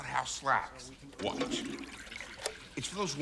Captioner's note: flushing sounds